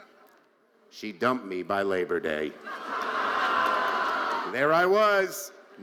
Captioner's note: audience laughing